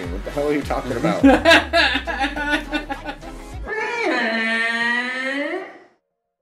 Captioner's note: laughter; Godzilla sound